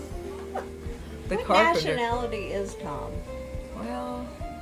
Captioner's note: laughs